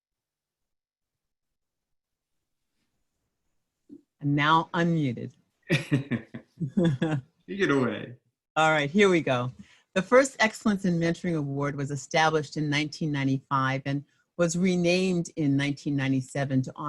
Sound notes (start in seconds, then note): 5.7 laughs